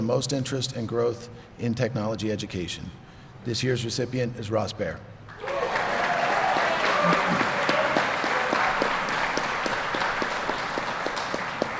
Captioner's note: applause